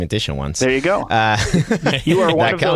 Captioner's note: laughter